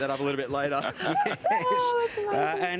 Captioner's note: laughing